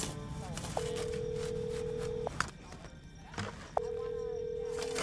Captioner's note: tense music; phone ringing